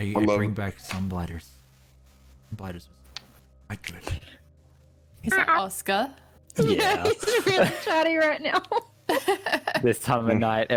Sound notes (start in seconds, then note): 5.6 kitty voice; 6.6 giggles